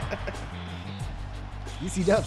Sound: laugh

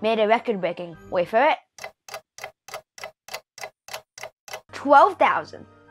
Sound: clock ticking

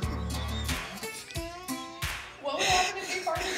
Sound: laughs

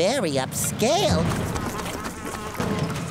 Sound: flies buzzing

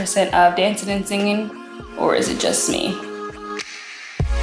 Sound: exhale

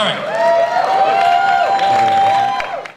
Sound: audience cheers

